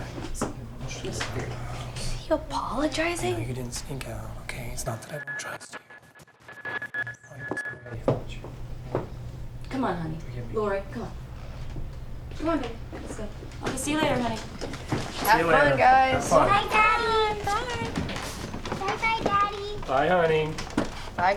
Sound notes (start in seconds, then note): 5.1 buzzing